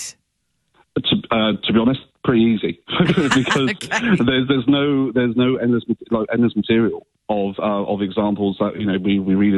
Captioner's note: laughing